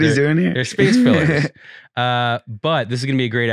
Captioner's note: laughing